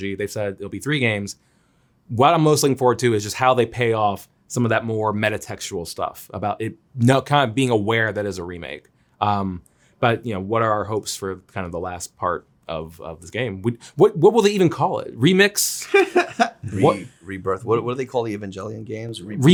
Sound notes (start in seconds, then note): 15.8 Zack laughs